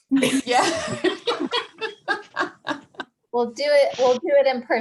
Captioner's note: chuckles; laughing